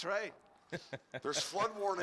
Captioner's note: laughing